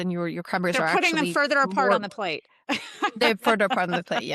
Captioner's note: laughs